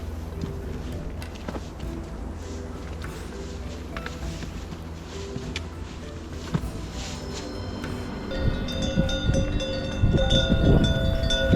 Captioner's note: cow bells